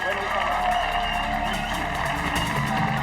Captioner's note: audience applauding; dramatic music